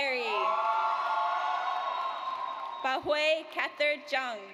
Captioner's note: audience cheers